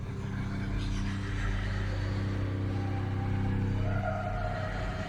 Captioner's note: eerie music; voices whispering and wailing